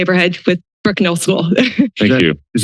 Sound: chuckles

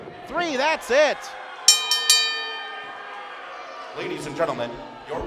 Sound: bell rings

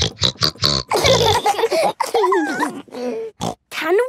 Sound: snorting version of theme song; laughter; snorting

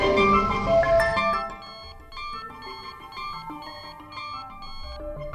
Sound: alarm beeping lightly

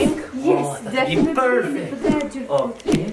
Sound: dramatic bang; camera whooshing

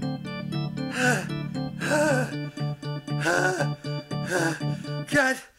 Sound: heavy breathing

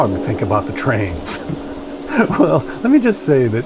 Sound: laughs

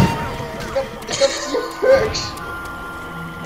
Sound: cries

